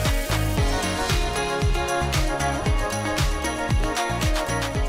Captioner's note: applause